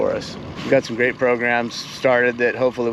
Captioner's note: boat engine idling